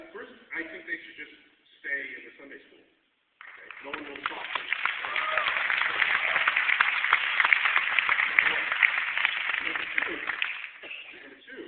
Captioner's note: applause